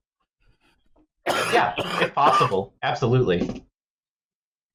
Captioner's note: coughs